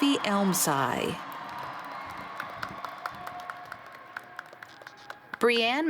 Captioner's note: cheers